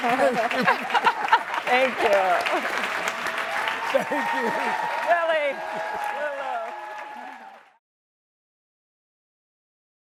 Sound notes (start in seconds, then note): 0.0 laughing; 3.9 laughs